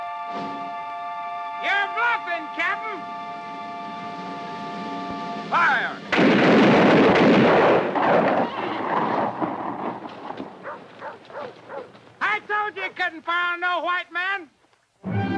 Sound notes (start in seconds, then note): 6.0 guns fire; 15.0 ominous orchestral music